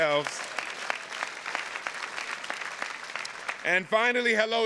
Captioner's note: audience applauding